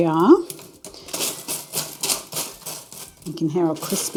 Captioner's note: crispy rustling